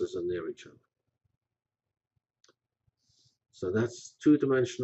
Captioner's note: pause